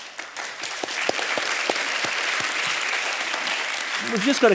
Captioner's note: audience applauding